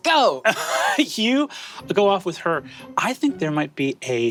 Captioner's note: laughs